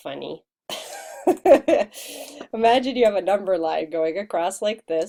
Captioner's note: chuckles